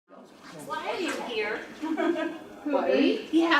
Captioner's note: laughter